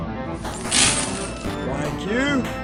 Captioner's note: coins spill into the game attendent's hands